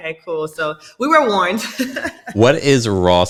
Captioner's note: laughing